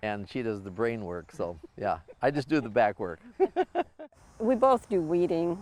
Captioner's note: chuckles